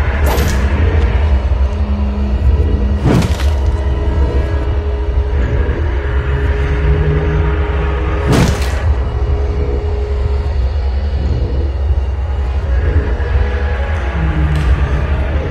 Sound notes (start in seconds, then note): 0.1 shink; 3.0 wham; 8.2 crack